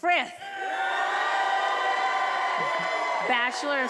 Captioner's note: attendees applauding and cheering